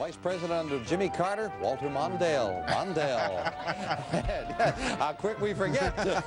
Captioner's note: laughing